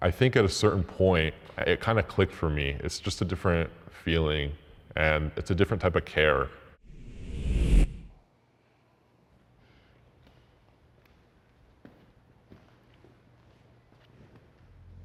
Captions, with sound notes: I think at a certain point, it kinda clicked for me. It's just a different feeling and it's a different type of care. (transition whooshes) (footsteps tapping)